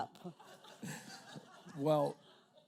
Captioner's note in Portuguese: risos da plateia